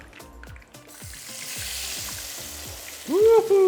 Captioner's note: cooking oil sizzling